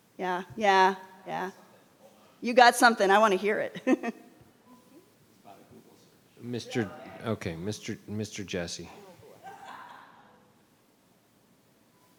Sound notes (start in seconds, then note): 3.8 chuckles; 10.1 chuckles